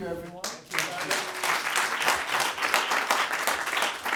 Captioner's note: applause